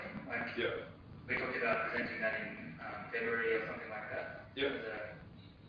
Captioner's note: audio distorts